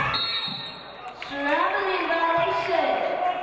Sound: referee blows whistle

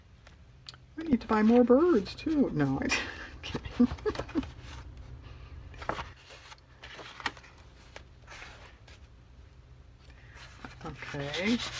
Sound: laughs

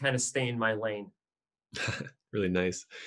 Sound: interviewer laughs

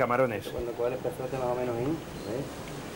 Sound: speaking spanish

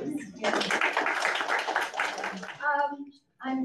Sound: audience claps

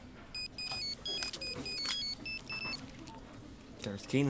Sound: phone rings

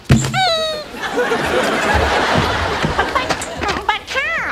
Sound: audience laughs

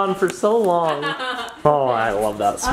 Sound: laughing

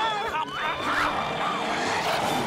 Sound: growling

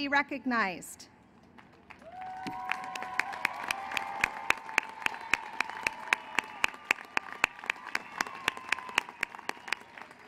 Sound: applause

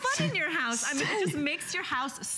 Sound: laughter

